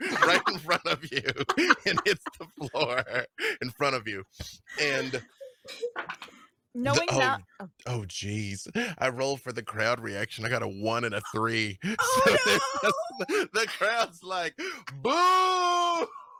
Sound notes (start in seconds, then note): 11.0 laughing; 12.9 yells